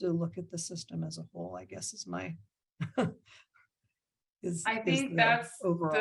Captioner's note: laughing